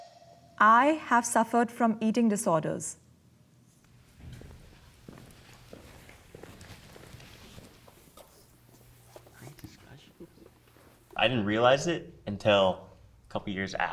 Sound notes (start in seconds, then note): 3.8 footsteps approaching